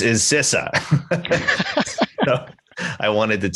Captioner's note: both laugh